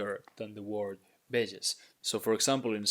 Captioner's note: speaking in Spanish